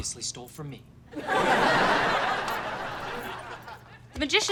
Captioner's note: audience laughter